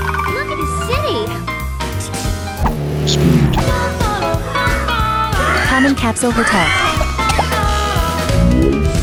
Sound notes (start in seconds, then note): 5.7 desperate panting